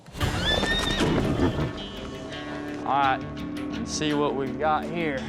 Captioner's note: neighs wildly